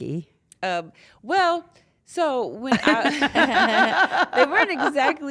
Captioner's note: laugh